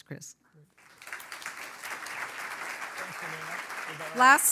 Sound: audience applauds

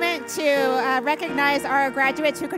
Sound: none

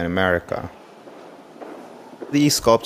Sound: footsteps clopping

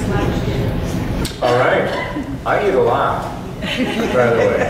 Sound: audience laughs

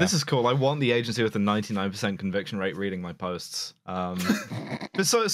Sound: laughter

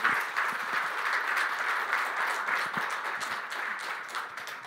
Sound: applause

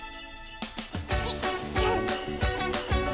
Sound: grunting

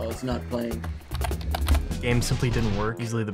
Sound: typing sounds

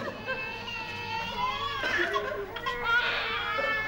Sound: babies crying

